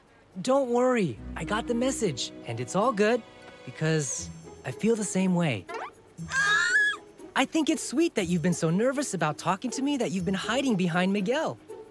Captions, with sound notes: Don't worry. I got the message. And it's all good because I feel the same way. [squealing] I think it's sweet that you've been so nervous about talking to me that you've been hiding behind Miguel.